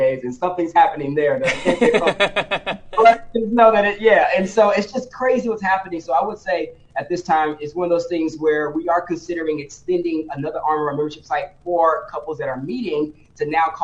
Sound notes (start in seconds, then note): 1.4 laughs